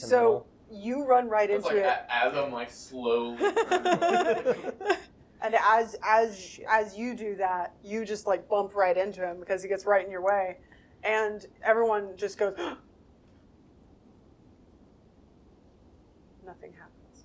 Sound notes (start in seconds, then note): 10.6 gasp!